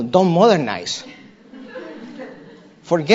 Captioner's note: laughter